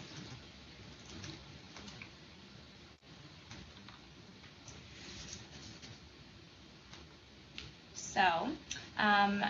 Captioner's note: silence